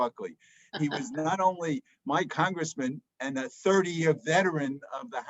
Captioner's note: laughs